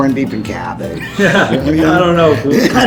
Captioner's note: laughing